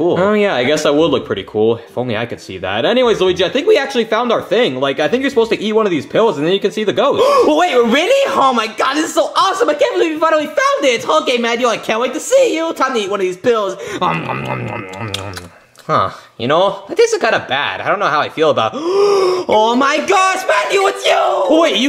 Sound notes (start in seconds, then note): 14.5 chewing; 18.7 gasping